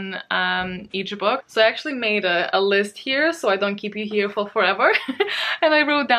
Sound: laughs

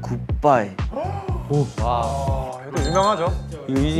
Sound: gasp!!

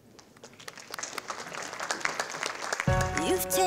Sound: audience applauding

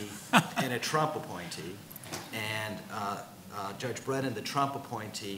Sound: laughs

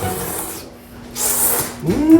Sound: slurping

